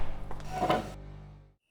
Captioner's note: chair Moving